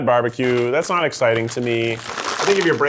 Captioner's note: bag rustles